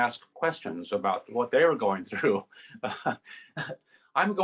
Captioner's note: laughs